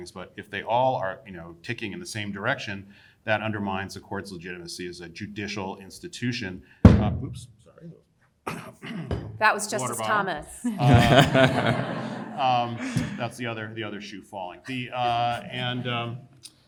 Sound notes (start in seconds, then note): 6.2 water bottle thuds; 10.6 panelists and audience laughing